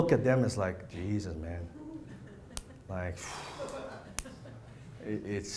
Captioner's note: blows air out